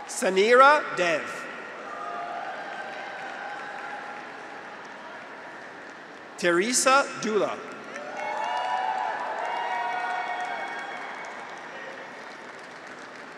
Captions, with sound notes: Saneera Dev. (graduates cheer) (audience applauds) Teresa Dula. (graduates cheer) (audience applauds)